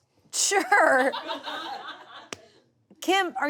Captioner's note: audience laughs